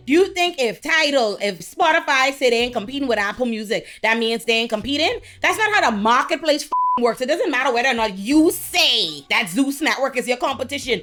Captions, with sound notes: Do you think if Tidal, if Spotify sit in competing with Apple Music, that means they ain't competing? That's not how the marketplace (beep) works. It doesn't matter whether or not you say that Zeus Network is your competition.